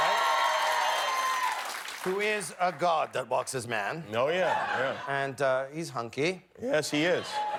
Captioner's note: cheers and applause